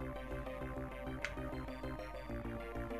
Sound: crack

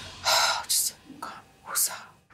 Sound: breathes deep

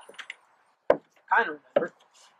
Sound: high heels walking on wooden stairs; high heels walking on wooden floor

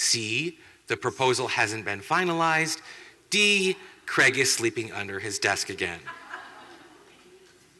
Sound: laughter

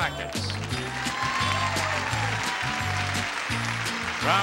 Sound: crowd cheers

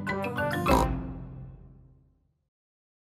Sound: oink

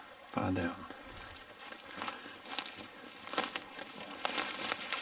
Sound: twigs snapping

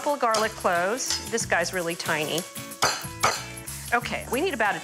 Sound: banging on counter

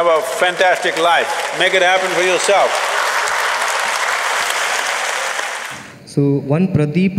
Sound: applause

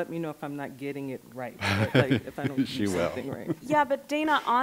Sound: laughing

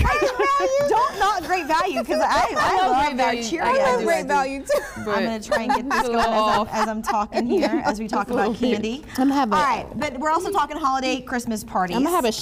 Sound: laughter

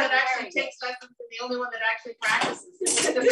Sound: laughter

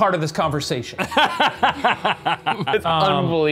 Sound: laughing

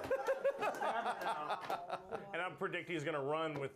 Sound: laughter

